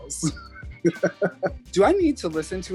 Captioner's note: laughing